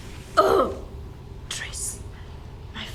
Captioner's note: groans